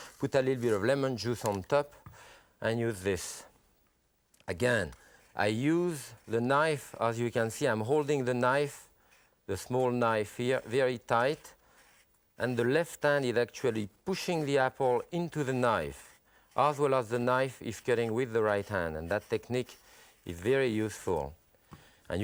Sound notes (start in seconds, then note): none